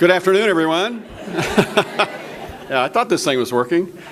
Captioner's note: audience laughter